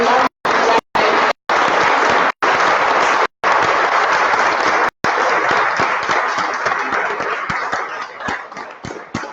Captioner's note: applause